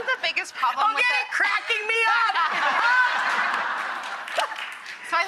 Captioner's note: laughs